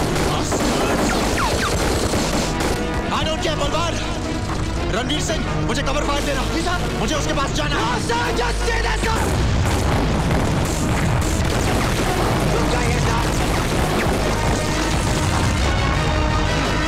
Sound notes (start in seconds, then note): 11.5 Gunshots